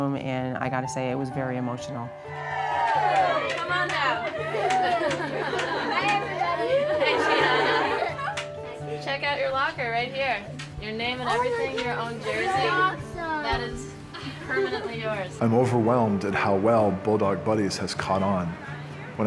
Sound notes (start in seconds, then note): 2.2 group Cheering